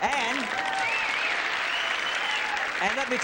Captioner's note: applause